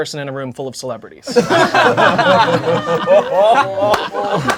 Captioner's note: crowd laughing